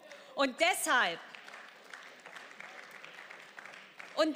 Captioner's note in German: Beifall